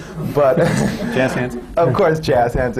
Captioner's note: laughter